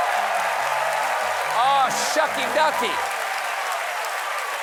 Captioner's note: cheers and applause